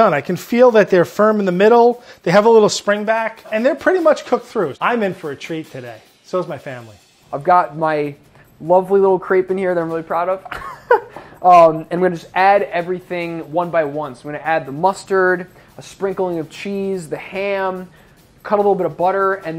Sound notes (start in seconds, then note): 10.5 laughs